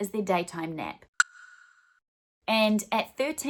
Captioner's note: clicking